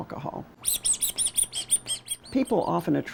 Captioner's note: rubber duck squeaking